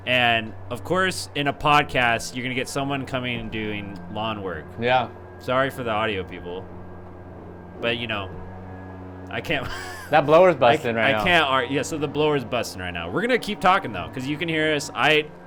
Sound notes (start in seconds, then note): 6.7 engine hums; 9.5 laughs